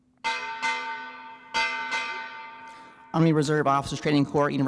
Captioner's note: bell ringing